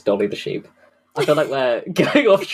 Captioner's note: laughing; laughs